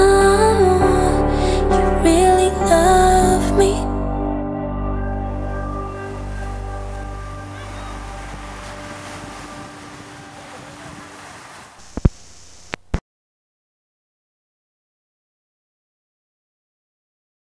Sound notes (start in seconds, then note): 7.3 water splashing; 11.8 static screeching